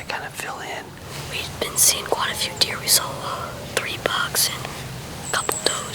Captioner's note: whispering